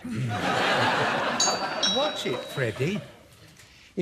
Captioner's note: doorbell